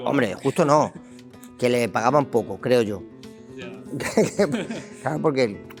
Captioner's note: laughs